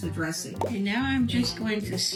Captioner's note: bubble popping